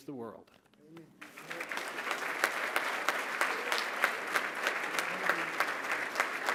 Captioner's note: applause